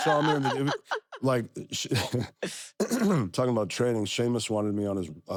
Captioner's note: laugh; cough